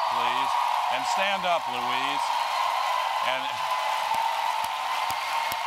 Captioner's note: applause